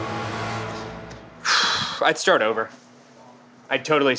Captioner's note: sighs